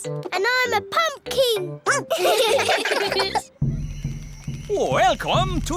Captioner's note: all giggling; barks